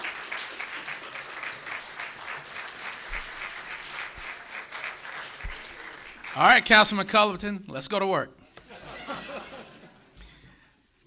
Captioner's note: applause